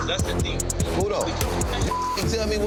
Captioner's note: beep